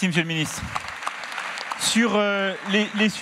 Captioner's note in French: Applaudissements